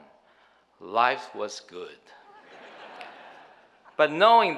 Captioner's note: audience laughing